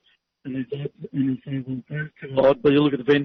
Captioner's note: microphone muffling